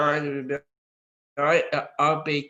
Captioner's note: audio distorts